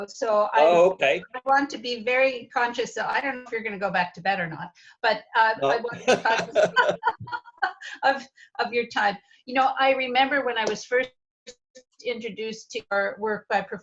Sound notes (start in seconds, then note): 5.6 laughter